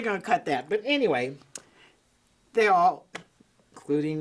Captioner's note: hands smacking